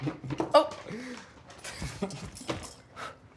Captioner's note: chuckles; chuckles